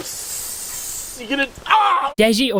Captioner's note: hisses; screams